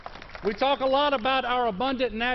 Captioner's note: applause